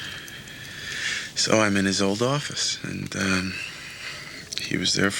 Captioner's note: none